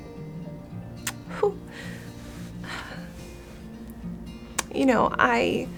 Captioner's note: breathes deeply